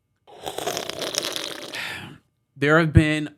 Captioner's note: slurping